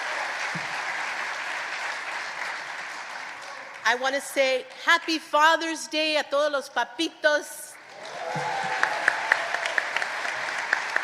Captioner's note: applause